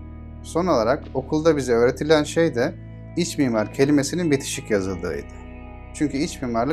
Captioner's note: in Turkish